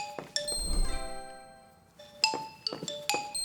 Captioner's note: chime